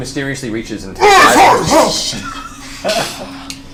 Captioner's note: sputters